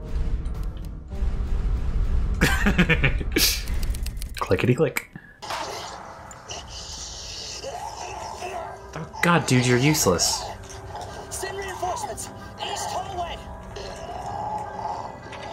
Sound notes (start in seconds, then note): 0.2 wind whooshing; 2.4 laughs; 5.8 zombie growling